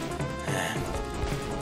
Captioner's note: sigh